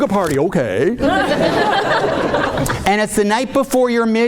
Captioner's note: audience laughing